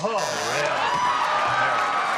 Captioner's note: buzzer; cheering and applause